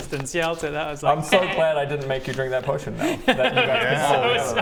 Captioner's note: evil cackle